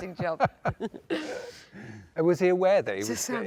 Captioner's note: both laugh